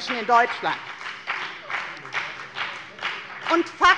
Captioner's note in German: Beifall bei der FDP